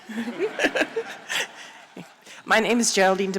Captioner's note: laughter